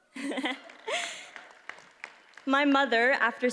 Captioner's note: audience applauds